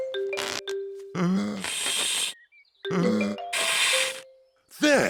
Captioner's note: blowing deeply